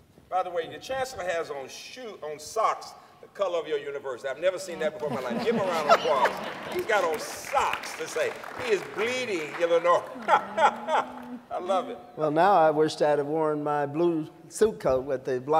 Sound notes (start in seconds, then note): 6.2 laughter, applause; 9.6 laughs